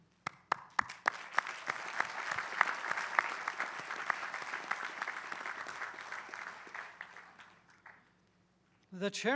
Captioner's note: applause